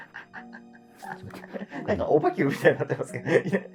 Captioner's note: laughing